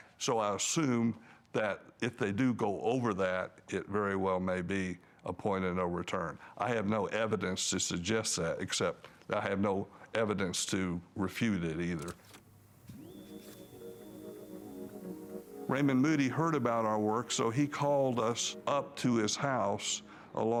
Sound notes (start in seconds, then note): 12.9 button clicks and machine starts